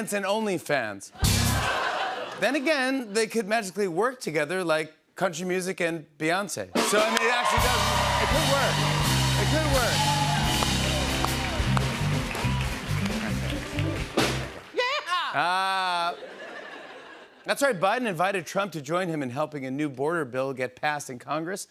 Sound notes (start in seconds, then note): 1.3 rim shot; 10.5 country music plays; 14.8 laughter